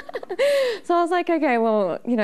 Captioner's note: laughing